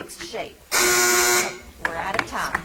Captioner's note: timer buzzing